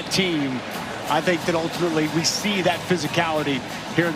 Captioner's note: crowd celebrates